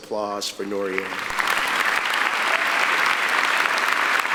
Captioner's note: applauding